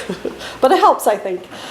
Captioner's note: laughs